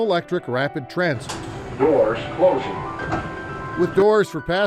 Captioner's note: Electronic voice